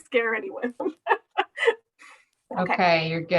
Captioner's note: laughing